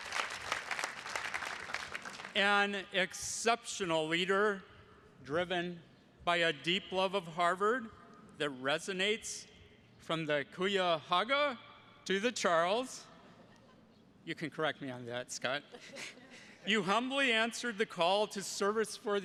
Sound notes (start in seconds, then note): 13.3 attendee laughing; 15.6 chuckles